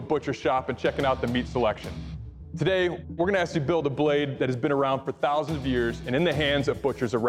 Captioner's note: none